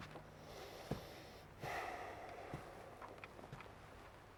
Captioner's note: sighing